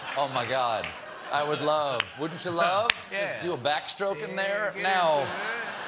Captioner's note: laughter